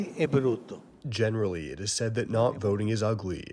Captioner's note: through translator